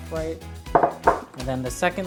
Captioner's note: bowl clatters